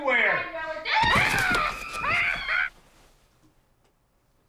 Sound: both scream

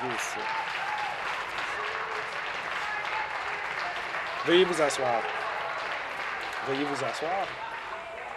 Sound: applause

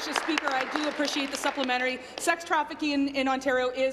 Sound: applause

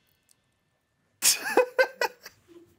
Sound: laughs

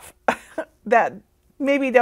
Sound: laughs

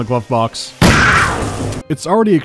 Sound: pow

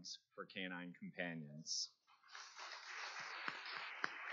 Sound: applause

